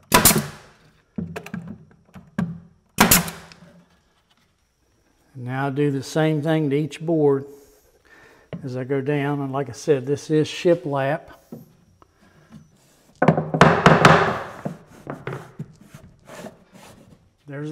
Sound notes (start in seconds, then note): 0.1 nailer snaps; 13.3 mallet banging